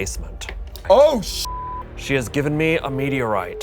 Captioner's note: beep